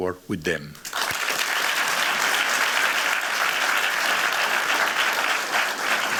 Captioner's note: applause